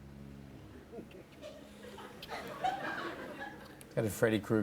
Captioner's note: laughter